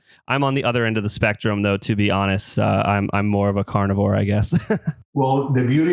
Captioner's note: laughs